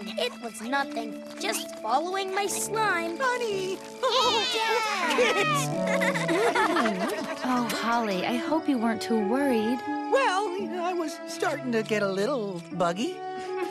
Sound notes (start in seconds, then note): 4.0 giggles; 5.8 kisses; 6.8 giggle